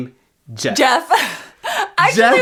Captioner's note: laughs